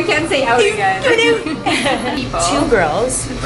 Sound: Canadian accent

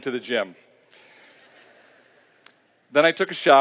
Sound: laughter

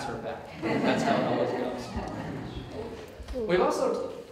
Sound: audience Laughter

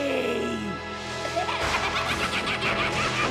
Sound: laughing

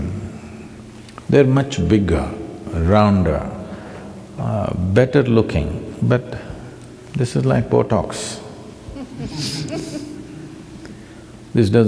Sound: few laugh

